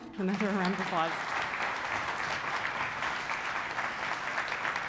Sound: applause

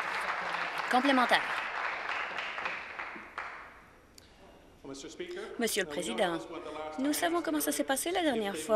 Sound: applause

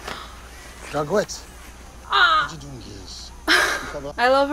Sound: says something in a different language

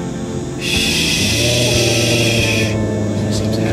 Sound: drawn out "Shh"; growl

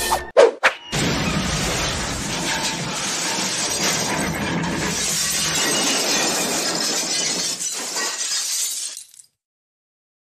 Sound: crash!

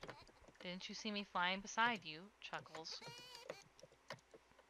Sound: chuckles

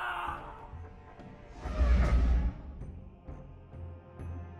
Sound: dragon swipe

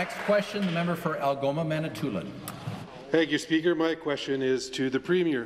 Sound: applause

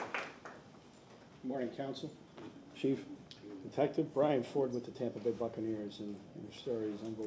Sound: applause

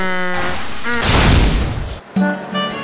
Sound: flying noises; crash and a boom!

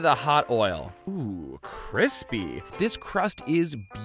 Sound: bell dings

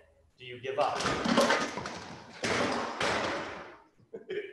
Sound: clatters; laughing

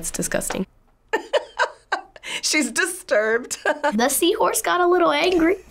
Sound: laughs

